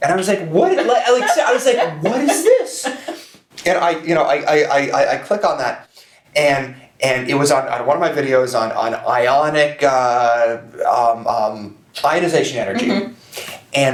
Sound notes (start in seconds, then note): 0.6 laughs